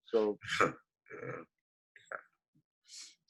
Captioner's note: giggles